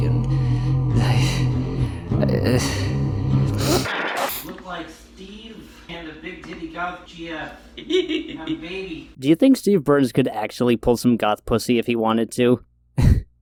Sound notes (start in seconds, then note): 0.0 groans and sniffs; 3.8 static; 13.0 laughs